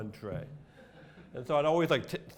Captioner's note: laughter